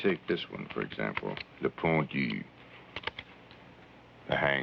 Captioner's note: speaking in foreign language